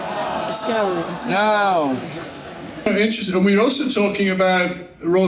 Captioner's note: laughing